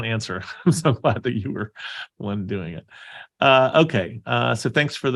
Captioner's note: laughing